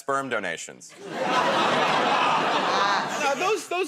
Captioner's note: laughter